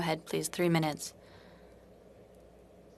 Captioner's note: speaking in French